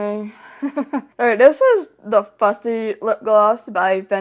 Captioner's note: laughs